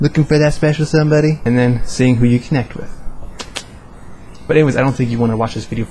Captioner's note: click